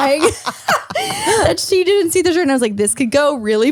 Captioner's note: laughs